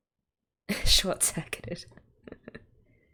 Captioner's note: laughs